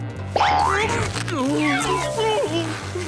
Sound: grunting

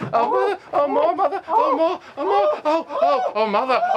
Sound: both grunting

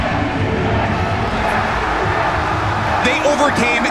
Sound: crowd cheering

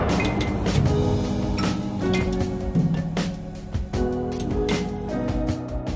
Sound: relaxed music; pinging

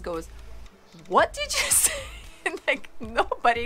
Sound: laughs

